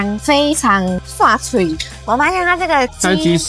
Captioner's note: Taiwanese